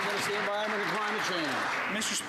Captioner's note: some Applause